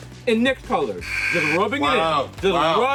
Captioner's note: basketball buzzer buzzes